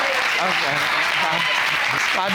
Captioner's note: audience applauding